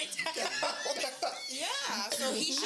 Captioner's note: laughing